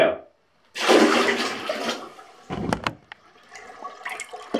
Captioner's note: water splashes